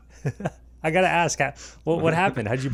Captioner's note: laughing softly